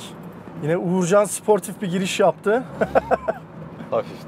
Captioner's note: laughing